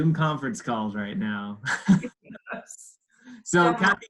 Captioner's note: laughs